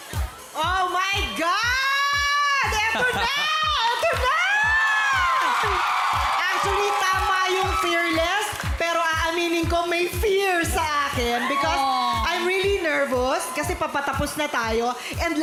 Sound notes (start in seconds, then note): 2.9 robi chuckles; 5.4 cheering, applause